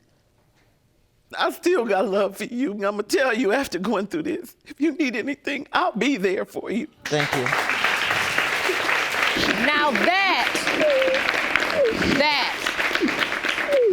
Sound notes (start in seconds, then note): 7.0 audience applauding; 10.4 crying